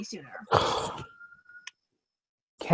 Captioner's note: sigh